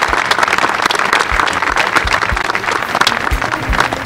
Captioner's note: applause